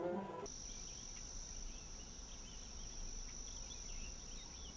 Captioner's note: crickets chirping